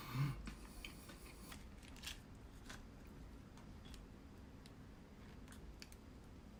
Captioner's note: sigh